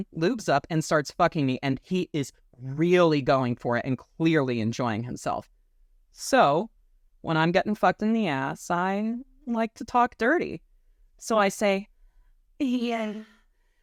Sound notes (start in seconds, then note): 11.7 sex voice